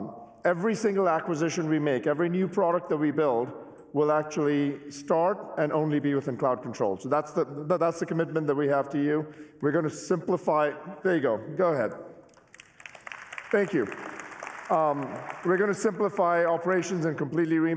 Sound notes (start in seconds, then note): 12.3 applause